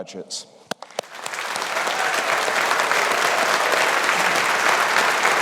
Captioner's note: audience applauding